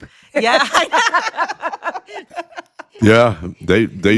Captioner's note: laughing